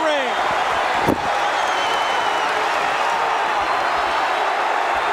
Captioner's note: audience cheering